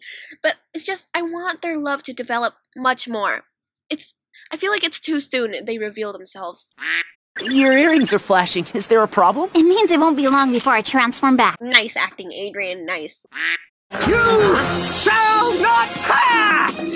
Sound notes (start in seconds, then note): 6.8 quack; 7.4 beeps; 13.3 quack; 13.9 action music